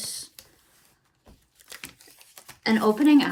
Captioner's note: plastic being removed